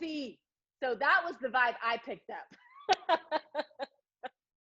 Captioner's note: laughs